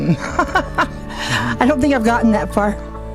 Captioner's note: laughing